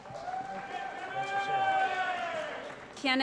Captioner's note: applause & Cheering